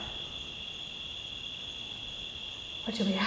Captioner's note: crickets chirping